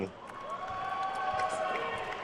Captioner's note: attendees cheering and applauding